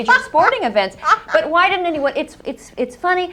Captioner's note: laughter